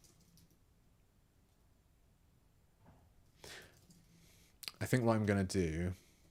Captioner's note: silence